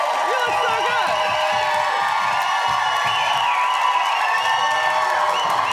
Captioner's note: audience cheering